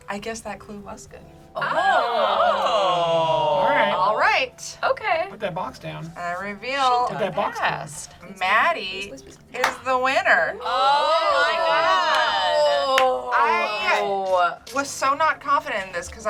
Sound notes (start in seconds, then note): 1.5 group awes; 10.5 group cheers